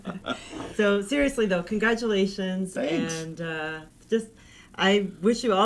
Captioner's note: laughing